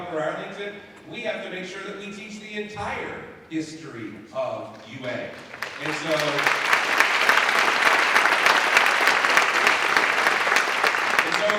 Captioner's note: applause